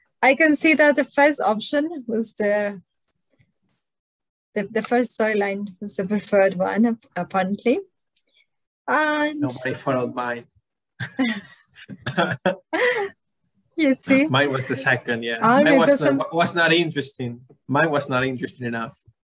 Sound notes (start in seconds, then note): 11.8 laugh